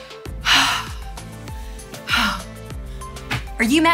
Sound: sighing

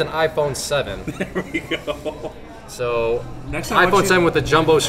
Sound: laughs

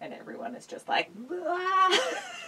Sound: yells

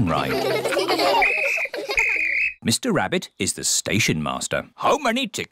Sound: blows whistle

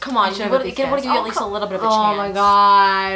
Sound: chatter

